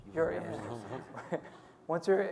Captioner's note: people laughing